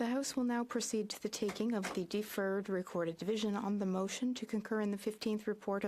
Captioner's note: speaking French